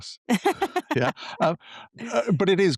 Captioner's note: laughs